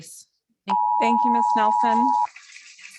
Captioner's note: beeping sound